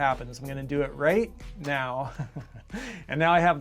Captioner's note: laughs